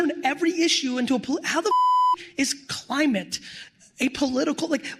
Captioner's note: beep